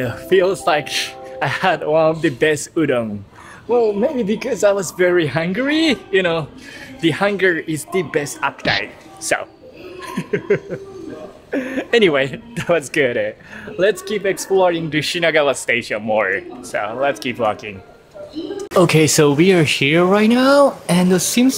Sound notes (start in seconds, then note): 11.5 chuckle